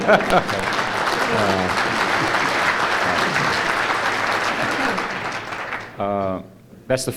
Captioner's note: applause